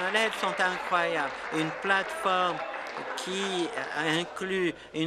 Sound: applause

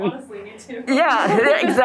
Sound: laughing

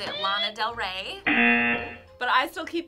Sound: buzzer sounds

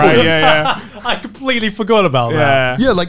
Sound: laughing

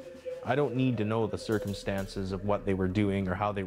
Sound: voiceover

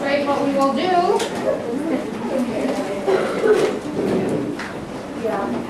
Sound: chatter

